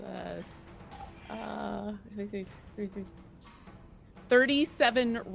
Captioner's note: murmuring